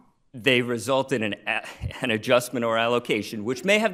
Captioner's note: laughing